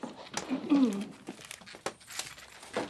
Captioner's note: clears throat